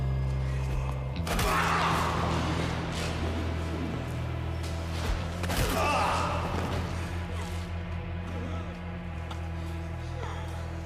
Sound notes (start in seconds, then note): 1.1 blows thudding; 1.4 man groaning; 8.1 tense music